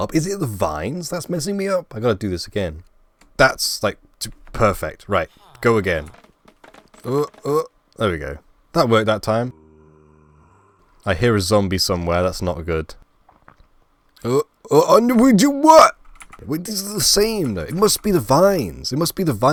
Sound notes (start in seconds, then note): 9.3 zombie noise